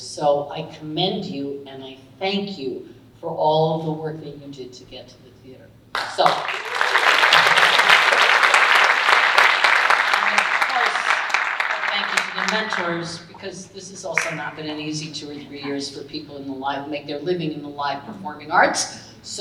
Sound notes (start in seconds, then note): 5.9 audience applauding